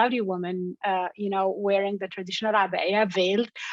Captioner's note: in foreign language